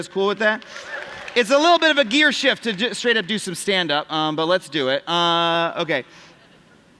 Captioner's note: applause